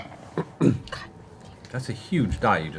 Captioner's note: quietly